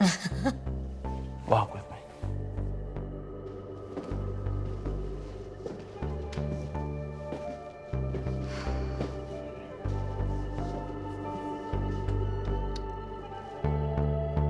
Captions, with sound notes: (both laugh) - Walk with me. (footsteps falling) (dramatic music)